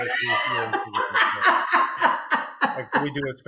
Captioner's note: laughing